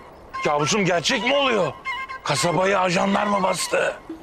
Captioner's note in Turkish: none